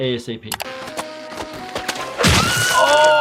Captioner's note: slingshot creaking; Petunia screaming